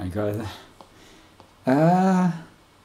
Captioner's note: haaa